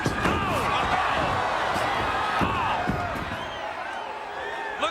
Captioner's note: audience cheers